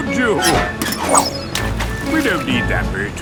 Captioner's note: splashes